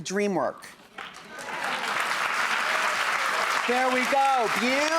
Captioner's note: audience applauds